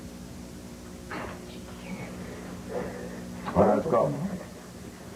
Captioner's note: child breathing heavily